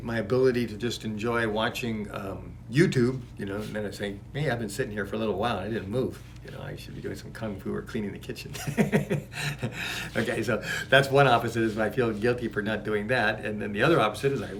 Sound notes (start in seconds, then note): 8.6 laugh